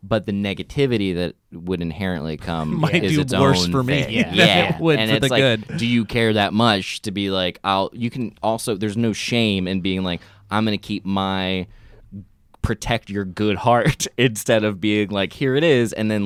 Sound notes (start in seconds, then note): 2.6 laughs